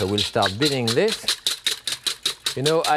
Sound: whisk clattering

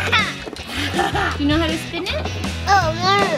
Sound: laughs

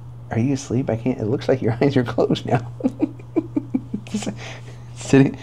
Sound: chuckling

